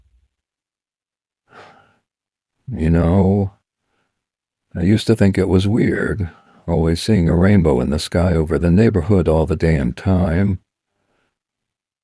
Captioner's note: sighs